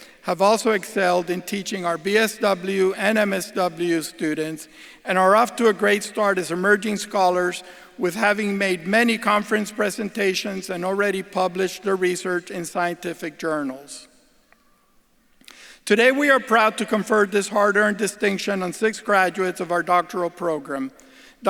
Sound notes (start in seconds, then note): none